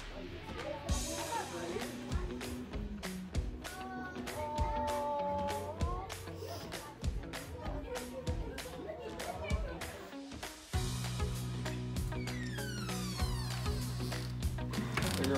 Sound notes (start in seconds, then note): 4.0 group awing; 6.2 cameraperson sniffling; 8.1 joyful holiday music; 12.0 door creaks